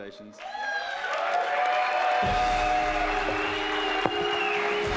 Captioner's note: audience applauding